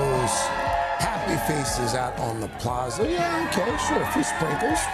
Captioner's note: cheers and applause